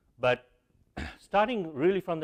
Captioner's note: cough